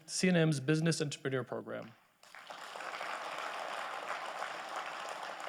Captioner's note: audience applauding